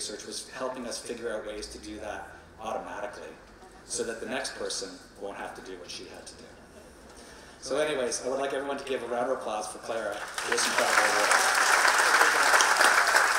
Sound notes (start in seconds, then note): 7.0 chuckling